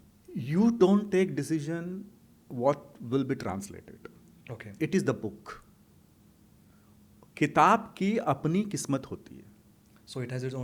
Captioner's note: hindi